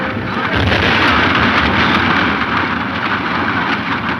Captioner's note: powder exploding